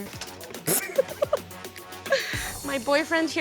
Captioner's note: laughs